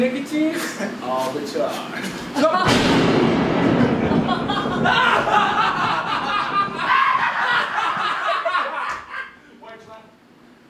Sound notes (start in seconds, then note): 2.6 lightning strikes; 3.7 evil laugh